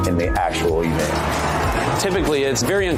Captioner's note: crowd cheering